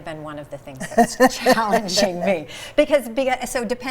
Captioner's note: laughing